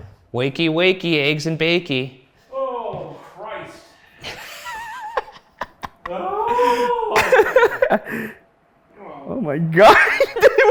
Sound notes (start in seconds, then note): 4.2 laughing